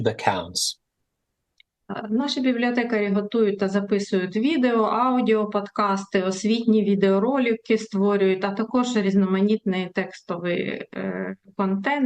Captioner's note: foreign language